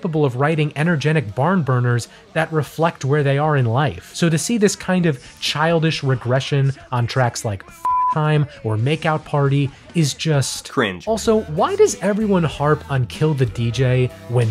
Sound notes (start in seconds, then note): 7.8 beep